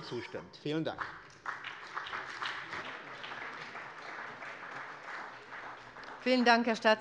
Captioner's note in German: Beifall bei dem BÜNDNIS 90/DIE GRÜNEN und beiAbgeordneten der CDU